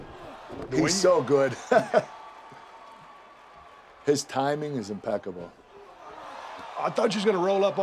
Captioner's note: laugh